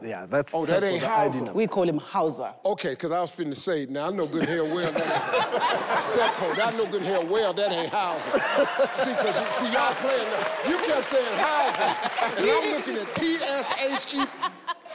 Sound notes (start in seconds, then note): 7.6 everyone laughs